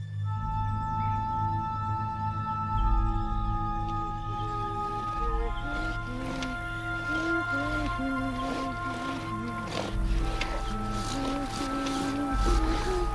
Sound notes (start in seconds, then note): 0.2 mysterious music; 5.3 woman humming